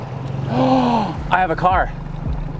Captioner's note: gasps